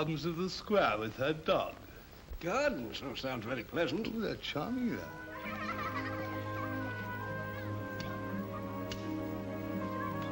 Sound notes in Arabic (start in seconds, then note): 4.7 موسيقى هادئة; 5.3 ضحك الأطفال; 8.2 موسيقى ناعمة